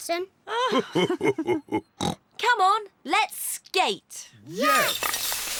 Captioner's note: both laugh